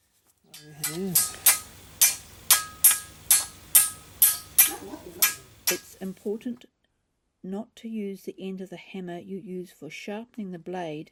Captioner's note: tapping